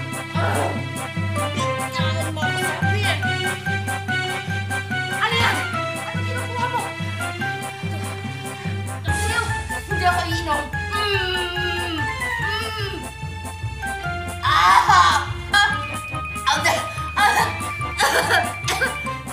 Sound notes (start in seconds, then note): 10.9 grunting; 16.4 gasping, coughing